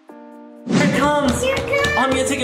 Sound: relaxing music; whoosh

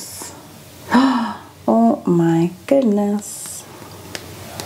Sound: gasps

